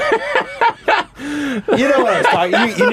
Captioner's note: laughter